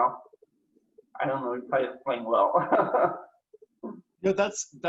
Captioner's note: laughs